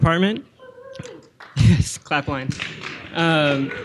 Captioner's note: laughs; audience cheering